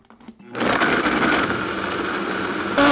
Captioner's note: blending running